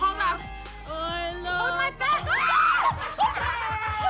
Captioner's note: shrieks; laughter